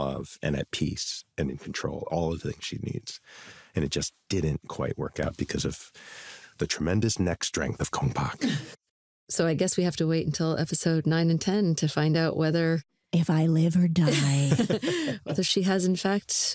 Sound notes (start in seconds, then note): 14.0 laughter